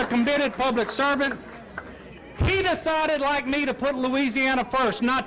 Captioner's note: applause